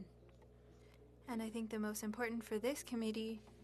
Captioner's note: speaking French